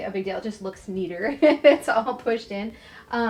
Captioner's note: laughs